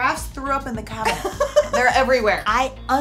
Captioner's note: giggles